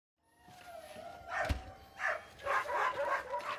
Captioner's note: dogs barking